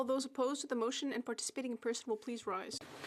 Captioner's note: speaking French